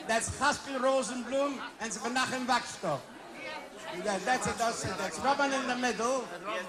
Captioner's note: foreign language